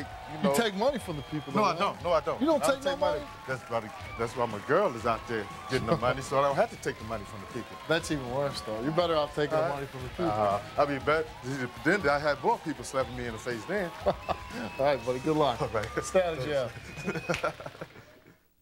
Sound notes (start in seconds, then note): 14.1 laughs; 16.6 both laughing